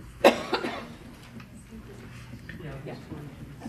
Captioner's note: coughing; people chattering